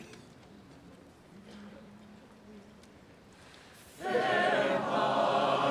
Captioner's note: attendee coughing